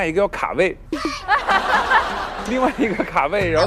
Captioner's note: can't stop laughing